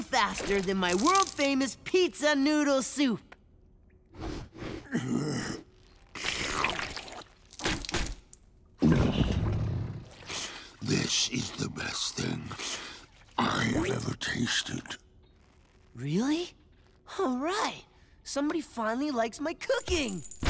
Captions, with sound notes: than my world famous pizza noodle soup. [sniffing, grunting] [slurping] This is the best thing I have ever tasted. Really? All right. Somebody finally likes my cooking.